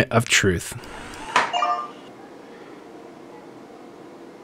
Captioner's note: rings softly